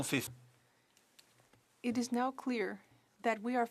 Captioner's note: speaking French